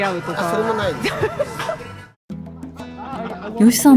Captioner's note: laugh